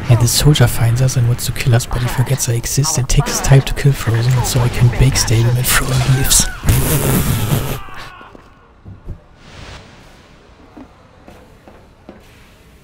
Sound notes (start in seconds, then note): 6.9 noise indicating humour